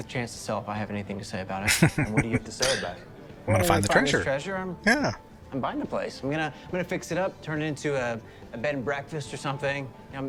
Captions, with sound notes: [Chuckling] I'm going to find the treasure. Yeah.